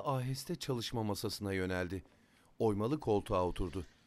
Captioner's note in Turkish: Ayak sesi